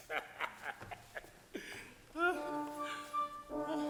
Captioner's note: Frank laughs; waltz music